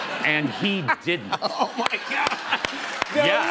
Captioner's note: laughter